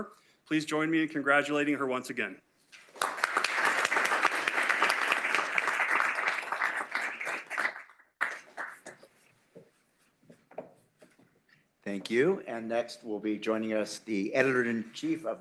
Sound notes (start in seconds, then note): 2.8 applause